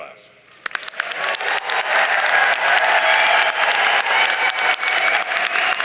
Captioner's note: audience cheering and applauding